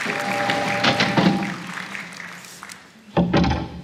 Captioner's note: space sounds; applause